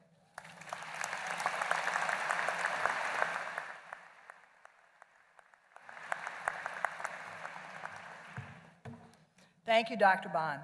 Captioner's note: applause